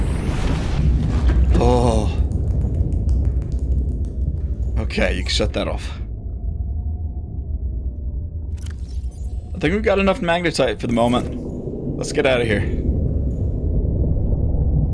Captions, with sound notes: (relieved sigh) Ok, you can shut that off. I think we've got enough magnetite for the moment. Let's get out of here.